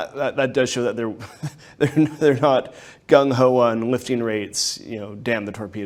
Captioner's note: laughs